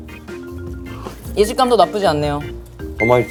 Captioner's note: slurp